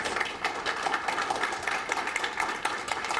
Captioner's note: audience applauds